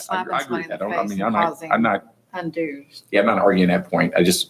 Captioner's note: hushed speaking